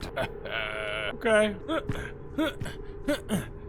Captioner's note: grunting